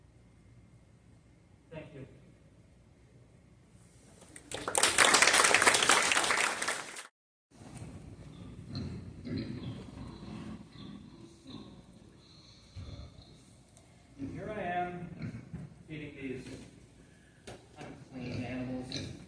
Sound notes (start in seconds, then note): 4.3 applause; 8.3 pigs Snorting